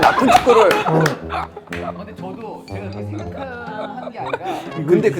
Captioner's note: dying of laughter